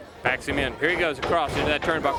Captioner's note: crowd cheering